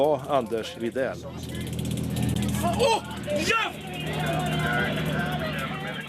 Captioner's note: sound of taser guns and shouting